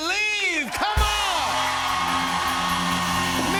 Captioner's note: cheers and applause